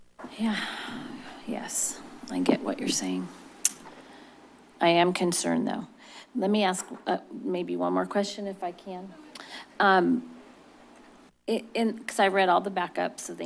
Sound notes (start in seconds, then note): 3.6 click tongue; 11.1 stuttering